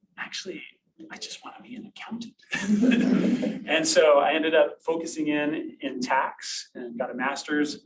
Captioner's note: laughter from audience